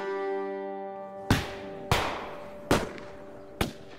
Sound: gunshots

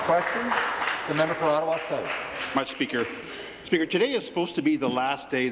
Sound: applause

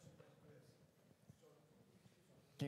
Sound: Audience Member speaks softly

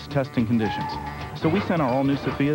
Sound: tires squeal

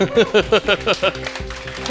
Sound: laughs

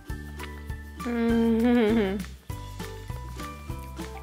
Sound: moans

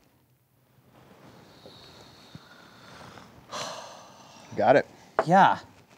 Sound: deep breathing

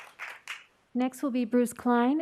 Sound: applause

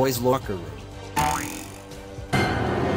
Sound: boing; rage chord

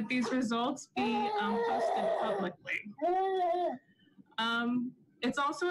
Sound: baby sobs

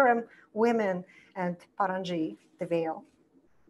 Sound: foreign language

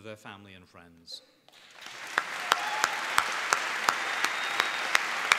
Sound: applause

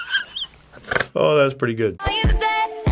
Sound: wheezing laughter; snorts

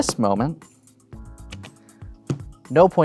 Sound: cards slap table, thumps cards

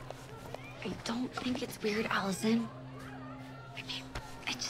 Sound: whispering

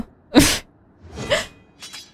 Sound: laugh

